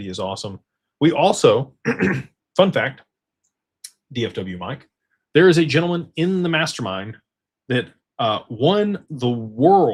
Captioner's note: clears throat